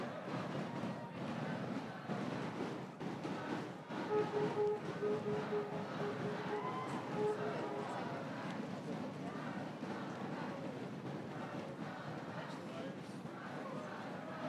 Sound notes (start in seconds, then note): 0.0 crowd cheering and applauding; 6.1 horn beeping; 13.3 crowd cheering and applauding